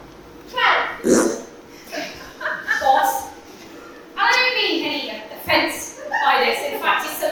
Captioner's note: fart noise